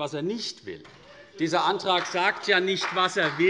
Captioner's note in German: Beifall CDU und BÜNDNIS 90/DIE GRÜNEN